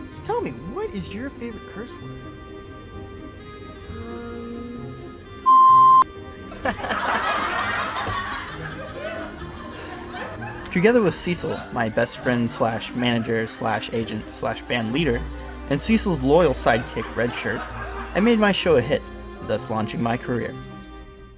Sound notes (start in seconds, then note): 6.4 audience laughter